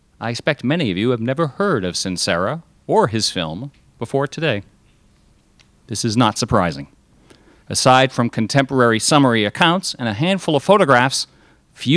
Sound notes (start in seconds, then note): none